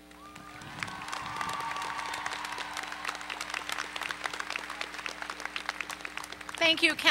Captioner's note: applause